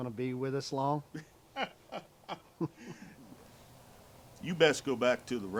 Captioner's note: men chuckle